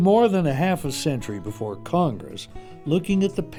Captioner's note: voiceover